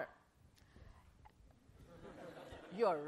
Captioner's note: laughter